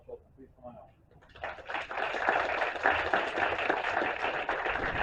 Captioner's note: applause